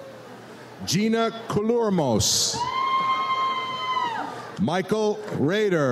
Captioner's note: audience cheers